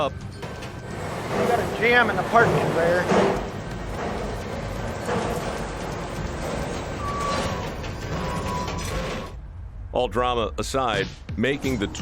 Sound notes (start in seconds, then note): 7.2 machines whirring